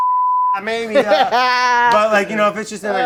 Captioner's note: laughing